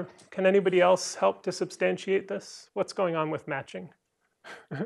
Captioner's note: laughter